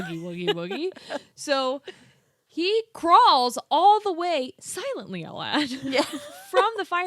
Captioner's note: laughs; laughs